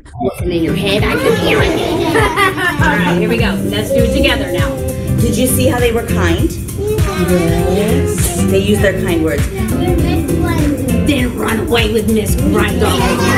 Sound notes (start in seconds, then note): 1.0 children laughing